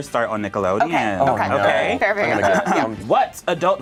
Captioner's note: overlapping chattering